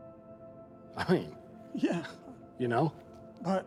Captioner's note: laughs